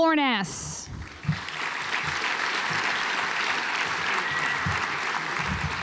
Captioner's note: audience applauds